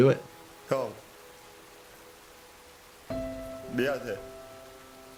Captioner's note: Player 218 speaking in Korean